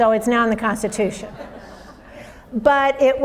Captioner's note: audience laughs